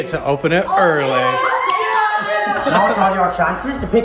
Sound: family cheers

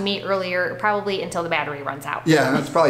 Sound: laughing

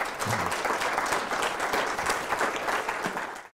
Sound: audience applauds

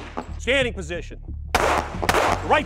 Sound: gun fires

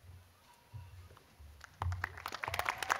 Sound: cheers and applause

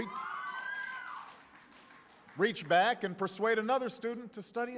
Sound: applause

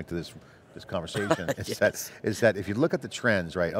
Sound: laughing

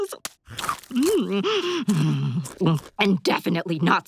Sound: moaning

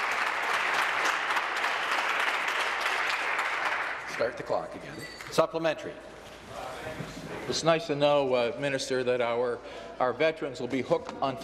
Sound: some Applause

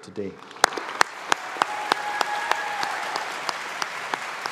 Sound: audience applauding

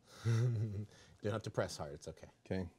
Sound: man chuckling

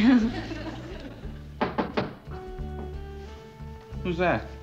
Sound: knock on door

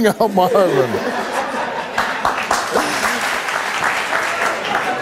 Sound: audience applauds and jeers

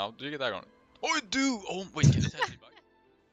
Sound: haha

